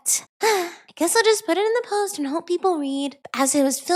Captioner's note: sigh